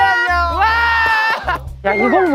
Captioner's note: claps not knowing what it is